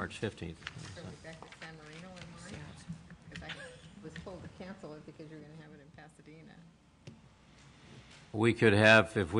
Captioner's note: multiple voices speaking